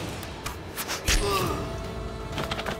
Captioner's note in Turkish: Ok sesi